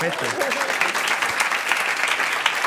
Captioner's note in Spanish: Aplausos